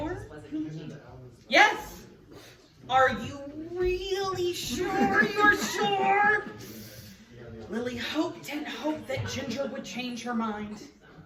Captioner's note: laughs